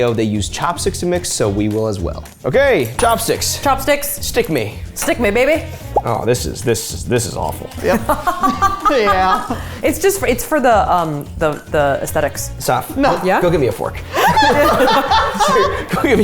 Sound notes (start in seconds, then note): 7.8 laughing; 14.0 laughing